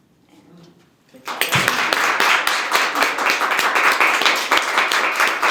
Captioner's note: applause